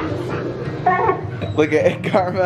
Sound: dog whimpers

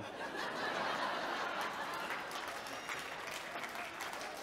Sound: audience chuckles

